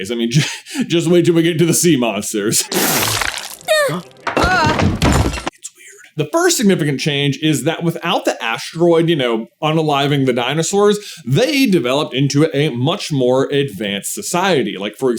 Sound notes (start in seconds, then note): 2.6 sploooooot; 3.5 squeak